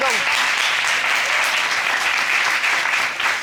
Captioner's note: audience applauding